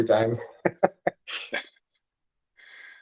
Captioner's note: laughter